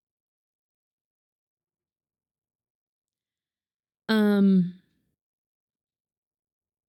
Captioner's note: silence